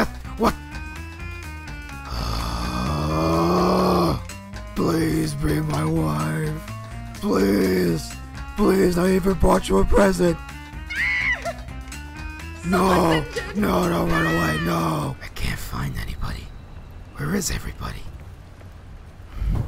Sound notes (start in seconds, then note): 2.0 growls in frustration